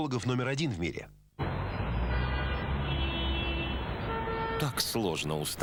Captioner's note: car beeps